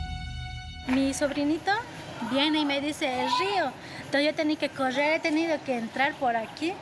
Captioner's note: villager speaking in foreign language